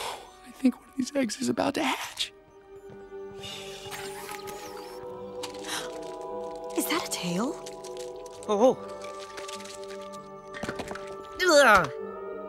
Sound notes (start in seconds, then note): 5.1 yasmina gasps